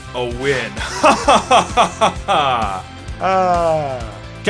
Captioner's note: laughs